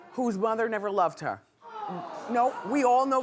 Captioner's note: groaning